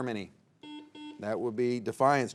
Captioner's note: buzzer beeps